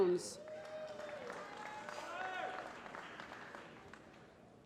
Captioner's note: applause